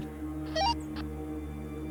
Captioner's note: radio squelch